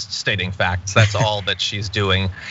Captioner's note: laugh